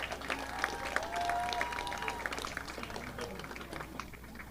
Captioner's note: audience applauding